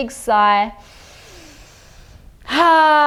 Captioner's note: inhales deeply